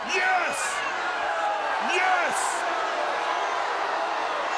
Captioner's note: crowd cheering